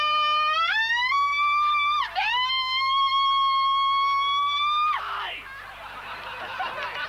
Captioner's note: laughs